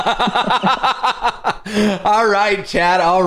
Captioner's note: laughter